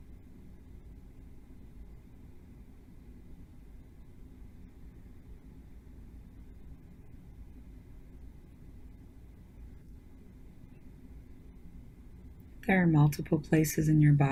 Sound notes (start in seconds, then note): 4.1 silence